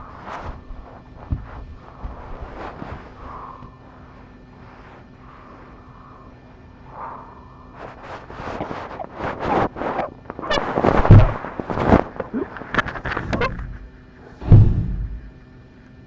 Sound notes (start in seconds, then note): 8.8 choking